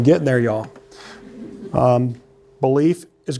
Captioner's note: laughter